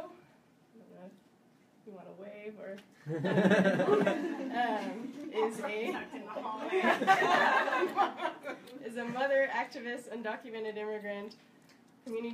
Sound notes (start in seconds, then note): 3.1 audience laughing; 5.8 people laugh